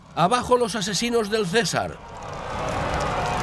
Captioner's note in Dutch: publiek schreeuwt; publiek schimpt